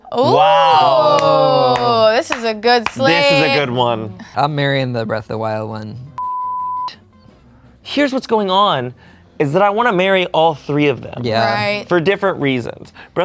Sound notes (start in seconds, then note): 0.0 all exclaim; 6.2 beep